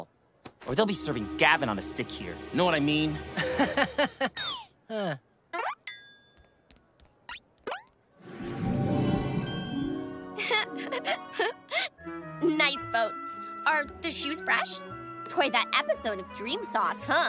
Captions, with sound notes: or they'll be serving Gavin on the stick here. You know what I mean? [laughing] Uh. [laughing nervously] Nice boats. Are the shoes fresh? Boy, that episode of Dream Sauce, huh?